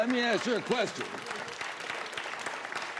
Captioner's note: applause